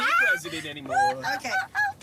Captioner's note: laughter